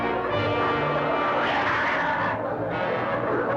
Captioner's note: growling